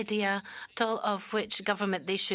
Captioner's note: speaking French